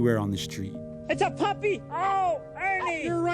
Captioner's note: soundbite of tv show, "sesame street"